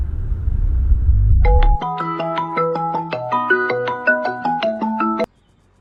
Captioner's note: phone ringing